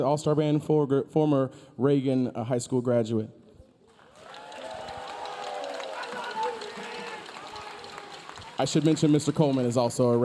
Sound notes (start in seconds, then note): 3.9 audience applauding; 4.0 audience cheering